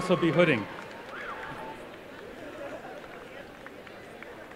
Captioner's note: applause and cheering